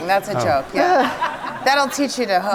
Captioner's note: audience laughs